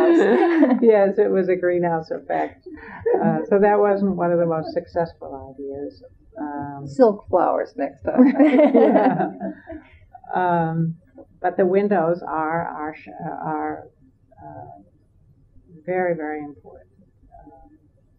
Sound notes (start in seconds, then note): 8.2 laughter